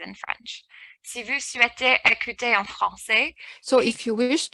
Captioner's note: speaking french